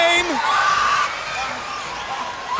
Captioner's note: crowd cheering